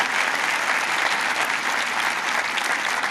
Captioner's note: applause